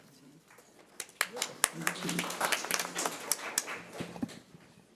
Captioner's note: audience applauds